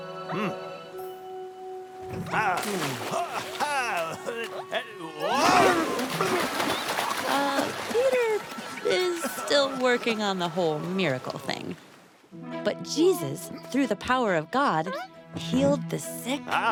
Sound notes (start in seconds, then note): 5.2 grunting; 5.2 splash